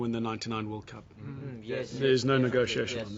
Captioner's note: murmuring